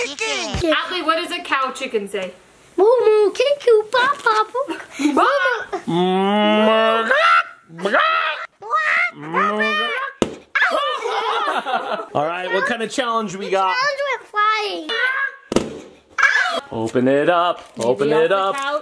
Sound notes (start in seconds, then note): 2.8 imitates various farm animals; 5.9 "moo" morphs into chicken clucking; 10.1 balloon pops; 15.4 balloon popping in slow motion